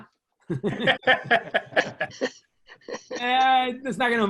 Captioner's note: laughs